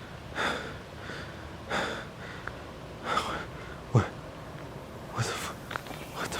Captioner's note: heavy breathing